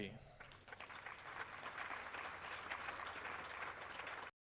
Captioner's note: audience applauding